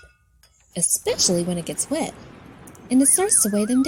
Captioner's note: thunder crashing